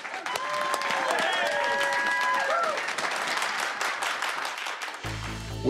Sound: cheers and applause

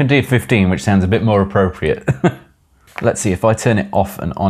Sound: chuckles

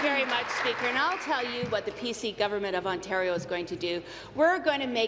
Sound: applause

